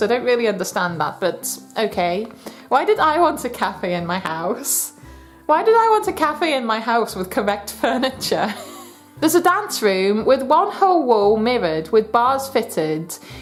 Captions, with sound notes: I don't really understand that but okay. Why did I want a cafe in my house? Why did I want a cafe in my house with correct furniture? [LAUGHS] "There's a dance room with one whole wall mirrored with bars fitted.